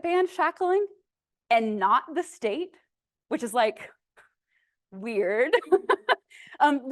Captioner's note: laughs